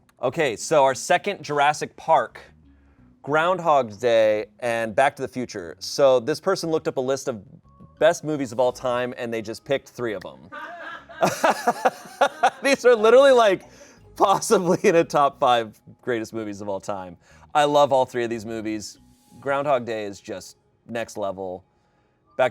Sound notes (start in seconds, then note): 10.6 everyone laughs